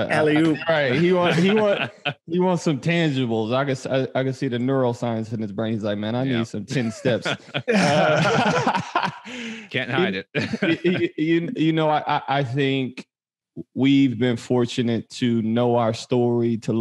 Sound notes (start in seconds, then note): 0.0 all laughing; 6.6 all laughing